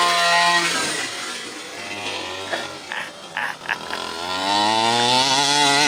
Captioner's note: truck engine revving